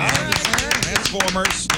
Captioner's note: applause